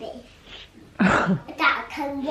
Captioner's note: laughs